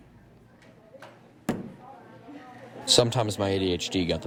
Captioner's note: pencil thuds